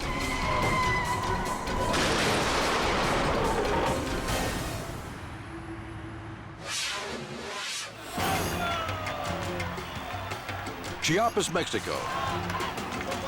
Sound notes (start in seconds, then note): 0.2 car tires screeching; 0.2 vehicles crashing loudly; 7.9 crowd cheering